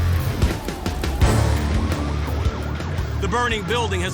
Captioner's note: sirens wailing